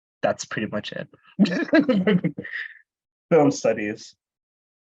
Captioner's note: laughs